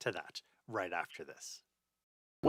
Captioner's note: voiceover